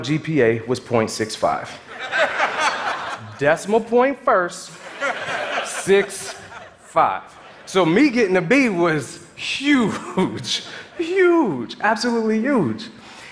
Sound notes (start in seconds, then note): 1.8 audience laughing; 4.7 audience laughing